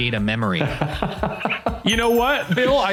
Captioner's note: laughing